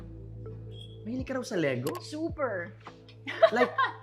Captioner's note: laughs